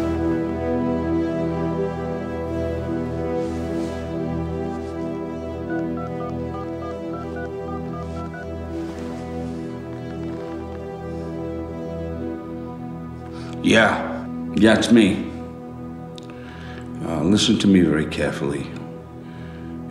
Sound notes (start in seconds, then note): 5.6 phone dial beeping